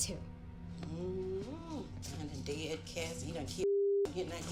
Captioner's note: moans